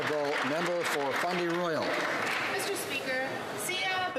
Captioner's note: some Applause